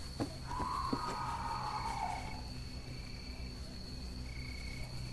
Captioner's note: neighbor screaming